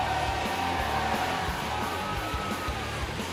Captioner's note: crowd cheering